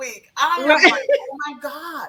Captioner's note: laughs